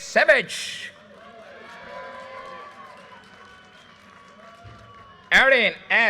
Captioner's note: audience cheers and applause